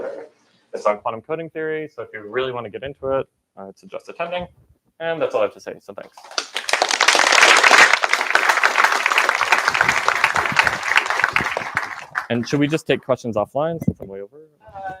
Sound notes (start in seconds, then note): 6.1 applause